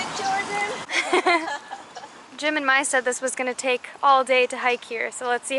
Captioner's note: laughter